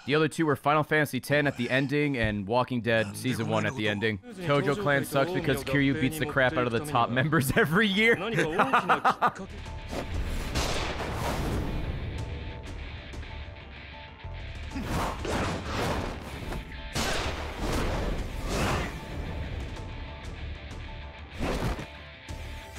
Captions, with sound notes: The other two were Final Fantasy 10 at the ending and Walking Dead Season 1 at the ending. Tojo Clan sucks because Kiryu beats the crap out of the top members every year. (laughs)